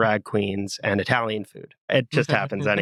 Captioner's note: laugh